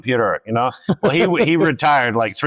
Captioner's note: laughs